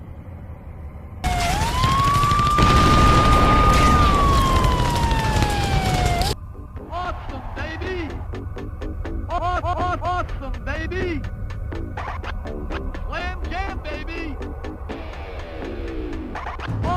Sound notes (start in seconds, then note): 1.2 warzone sounds